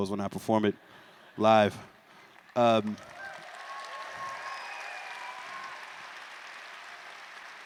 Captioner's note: applause